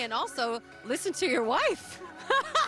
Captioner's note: laughing